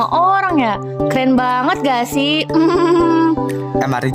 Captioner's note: laughs